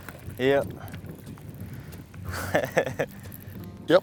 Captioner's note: laughs